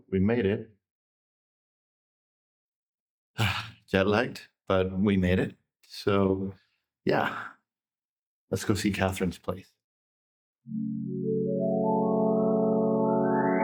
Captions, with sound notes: - So, we made it. (sighs) Jett lagged, but we made it. So, yeah, let's go see Catherine's place. (dramatic music)